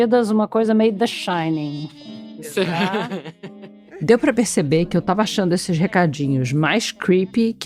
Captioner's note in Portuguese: risadas